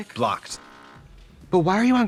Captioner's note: phone buzzes